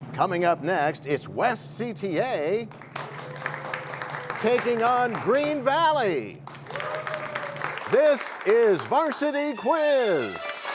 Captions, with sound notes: -Coming up next, it's West CTA... [cheers and applause] ...taking on Green Valley! [cheers and applause] This is Varsity Quiz!